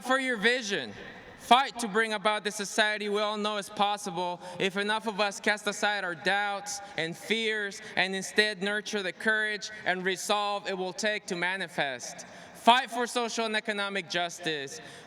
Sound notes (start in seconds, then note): none